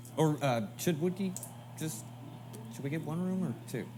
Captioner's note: Louie stutters